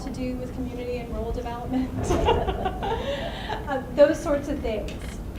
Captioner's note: laughs